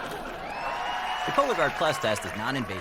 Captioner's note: audience: laugh track; audience: applause